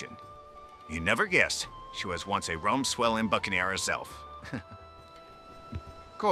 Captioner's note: chuckles